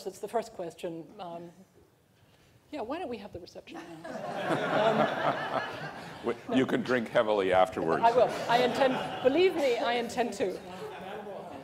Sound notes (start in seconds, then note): 3.8 laughter